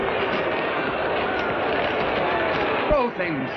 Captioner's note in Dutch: schreeuwen